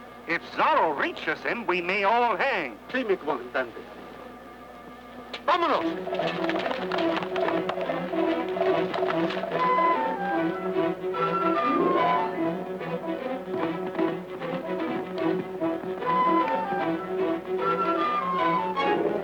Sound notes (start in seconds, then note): 3.2 soldier speaking Spanish; 6.7 lively music